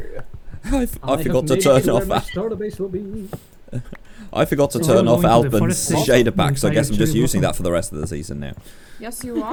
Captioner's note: realization noises